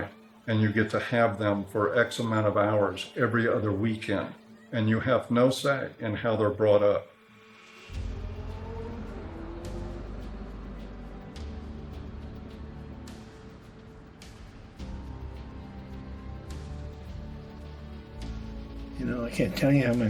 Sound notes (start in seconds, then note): none